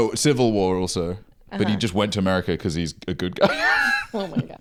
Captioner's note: laughs